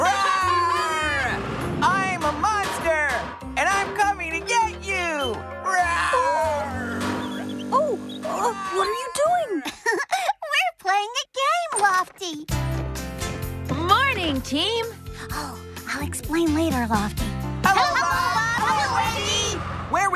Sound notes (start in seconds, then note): 10.0 laughs; 15.6 whispering